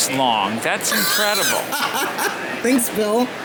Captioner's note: laughing